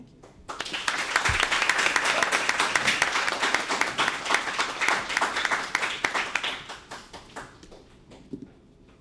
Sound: applause

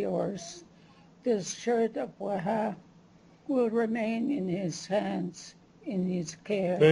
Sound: non-english; non-english

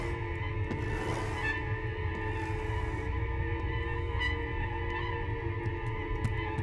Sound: carving sounds

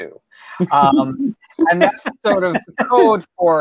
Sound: laughing

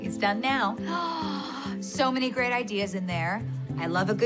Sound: gasps

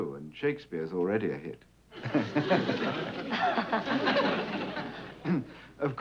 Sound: laughs

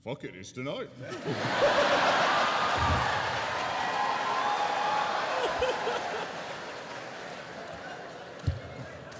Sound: laughter

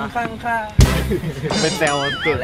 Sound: laughs

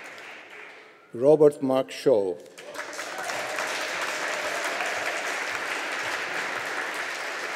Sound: audience applauding

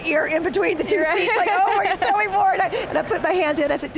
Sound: laughter

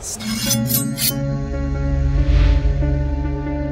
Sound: blade whooshing; eerie music

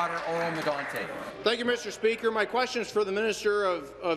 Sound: applause

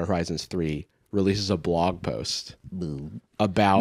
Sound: gulps

